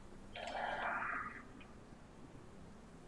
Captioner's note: sighs